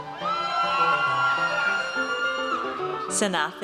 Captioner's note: audience cheers